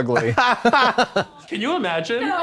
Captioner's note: blonde Women titter